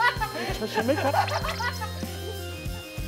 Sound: already on the floor laughing

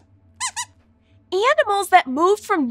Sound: squeaks squeaking

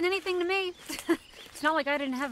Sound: laughs

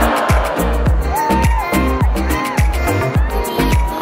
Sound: cheers and applause

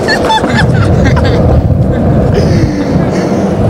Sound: laughter

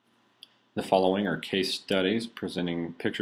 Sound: voiceover

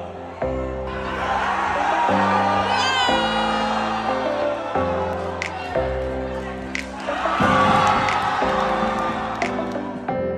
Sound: crowd cheering

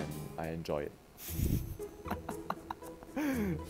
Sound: giggles

